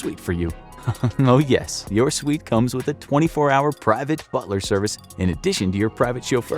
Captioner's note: chuckles